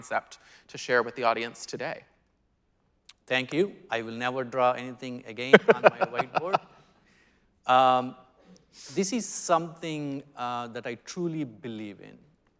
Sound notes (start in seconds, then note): 5.5 laughing